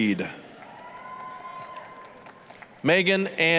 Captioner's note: applause, cheering